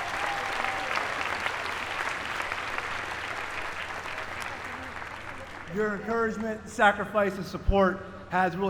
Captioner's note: applause